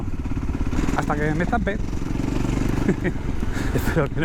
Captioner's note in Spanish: risas